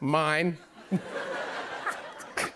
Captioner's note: laughter